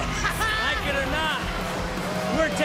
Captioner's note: laughs